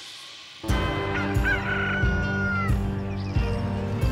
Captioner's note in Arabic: صياح الديك